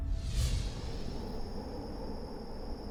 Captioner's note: wind whistling